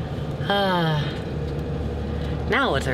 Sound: sighs

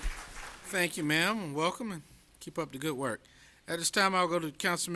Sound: applause

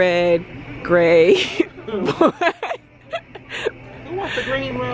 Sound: laughs

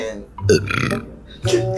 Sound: burp

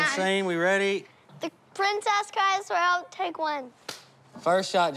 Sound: claps

